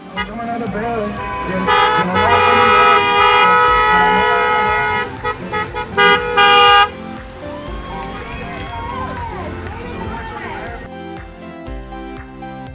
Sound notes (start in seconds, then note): 0.0 cars honking; 0.3 hip-hop music; 6.0 cars honking; 10.0 upbeat music